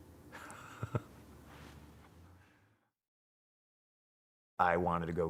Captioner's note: laugh